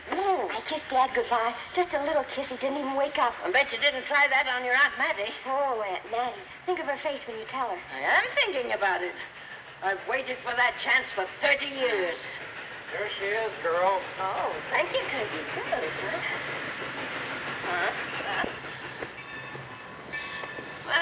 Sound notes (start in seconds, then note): 15.0 indistinct chatter; 20.0 bell ringing